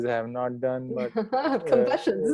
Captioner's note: laughs